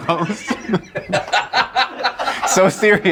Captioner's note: laughing